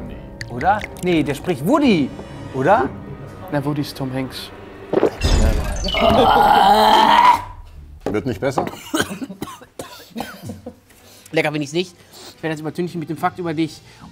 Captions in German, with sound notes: Oder? Nee, der spricht Woody. Oder? Na, Woody ist Tom Hanks. (Ekelgeräusch) Wird nicht besser? (Husten) Lecker find ich's nicht. Ich will's übertünchen mit 'nem Fakt über dich.